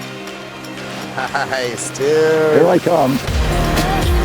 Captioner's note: laughs